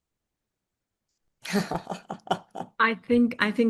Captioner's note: laughter